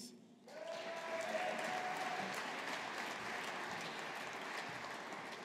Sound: audience applauding

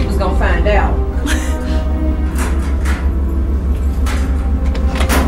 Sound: Jennifer scoffs

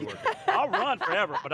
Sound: laughs

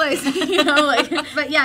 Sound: laughter

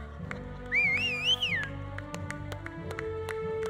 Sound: audience applauding; audience whistling

